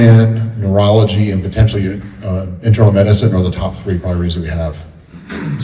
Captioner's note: clears throat